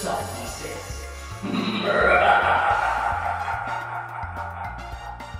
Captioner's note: laughs maniacally